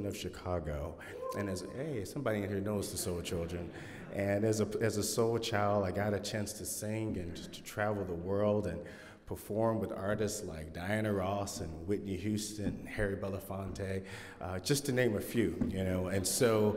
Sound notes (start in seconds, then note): 12.9 laughter from audience